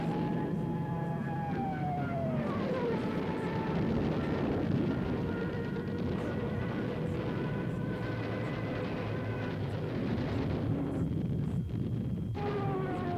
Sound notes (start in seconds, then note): 0.1 plane engines roaring; 3.8 guns blasting; 11.0 bombs blasting